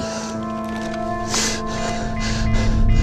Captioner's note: beeping